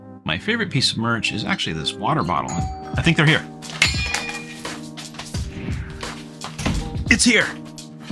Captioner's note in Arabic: يرن جرس الباب